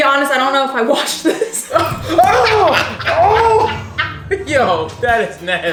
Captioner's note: groaning; laughing